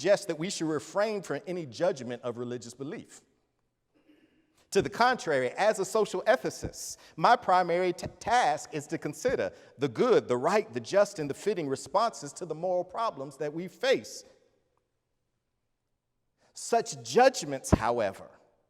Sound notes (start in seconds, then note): none